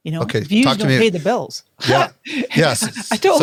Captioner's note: laughs